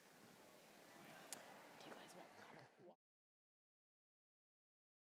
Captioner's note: audience chattering